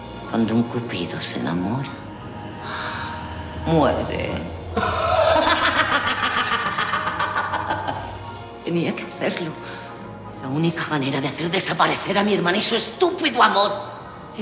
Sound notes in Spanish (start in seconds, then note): 4.8 Risa malvada